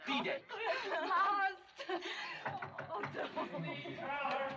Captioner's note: knocking On Door